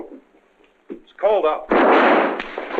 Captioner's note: gunshot